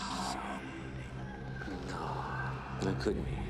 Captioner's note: ghostly voices whispering